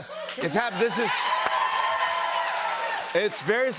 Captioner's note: cheers and applause